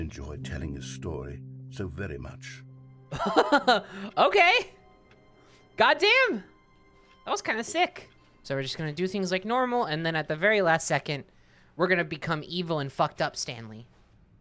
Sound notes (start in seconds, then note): 3.1 laughing